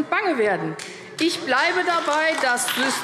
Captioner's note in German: Beifall AfD